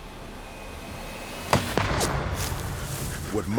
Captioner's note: gunshot